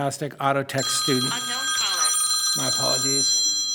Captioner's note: phone rings